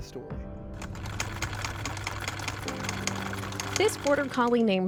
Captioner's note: sewing machine whirring